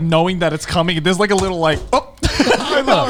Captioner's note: laughs; all laughing